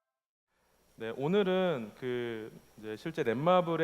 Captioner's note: speaking korean